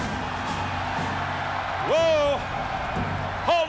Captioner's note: crowd cheering